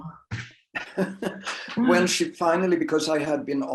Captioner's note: laughs